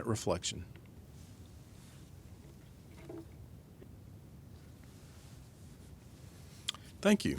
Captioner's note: silence